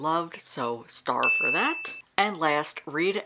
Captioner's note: bell dinging